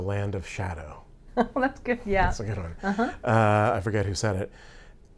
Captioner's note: laughs